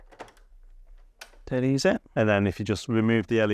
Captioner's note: buttons click